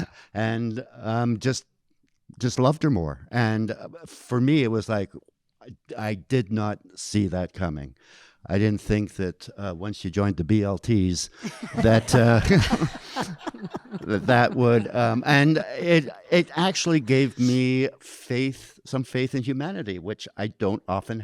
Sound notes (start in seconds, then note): 11.4 audience laughing